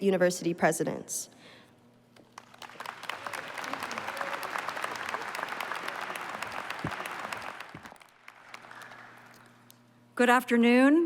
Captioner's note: applause